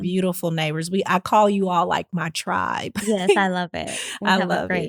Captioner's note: laugh